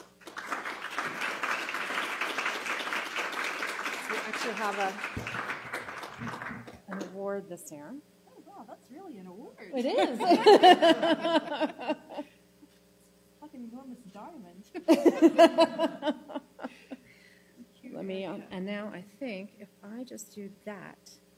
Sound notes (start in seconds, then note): 6.4 applause; 14.8 laughter